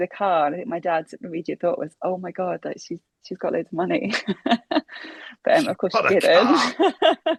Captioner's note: laughs